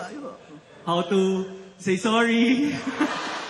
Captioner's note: laughter; chuckles